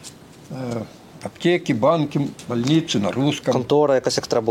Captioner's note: speaks